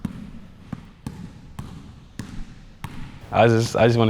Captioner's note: basketball bouncing